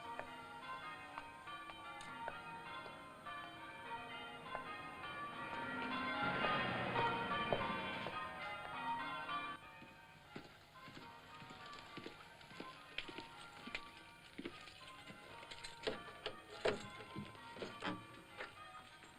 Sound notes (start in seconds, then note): 0.0 bells ringing; 9.2 bells heard faintly; 15.5 lock turning; 17.2 bells heard faintly